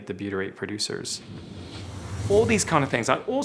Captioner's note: whooshing